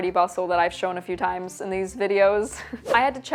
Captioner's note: chuckles